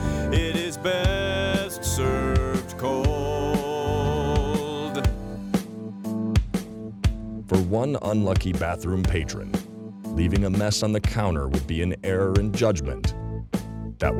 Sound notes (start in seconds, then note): 7.6 voiceover